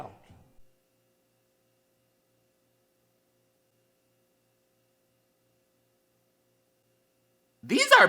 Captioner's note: bitch What The Fuck Silence